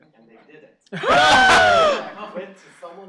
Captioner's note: yelling